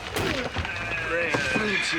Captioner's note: door closes